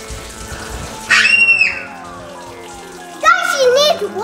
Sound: screaming

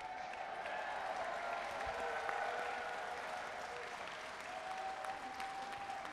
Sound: audience cheering and applauding

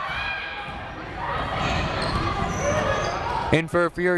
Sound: people shouting in the crowd

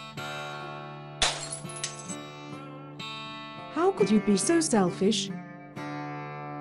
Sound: sound of dishes breaking

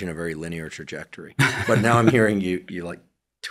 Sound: chuckling

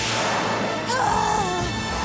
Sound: gasping

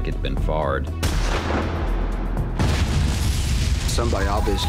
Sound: gunfire ringing

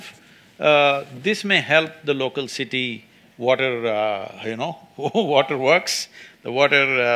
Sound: laughs

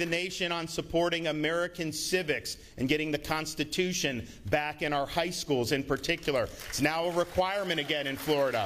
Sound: applause

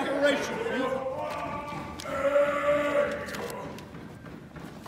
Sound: man chanting and yelling

